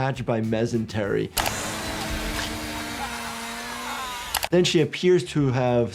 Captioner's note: machine whirs